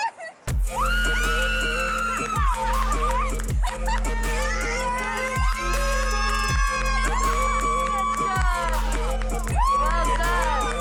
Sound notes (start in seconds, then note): 0.0 screaming; 3.6 screaming, cheering and laughter